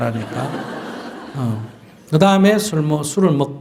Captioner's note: audience Laughter